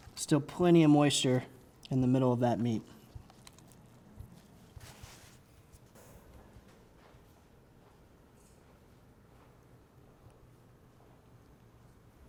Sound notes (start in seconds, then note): none